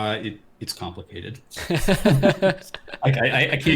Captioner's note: laughs